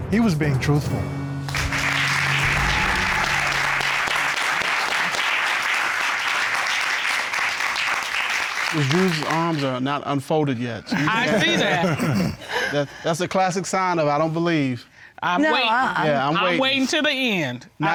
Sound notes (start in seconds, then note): 1.4 applause; 10.9 laughing